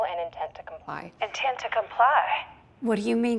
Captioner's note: on phone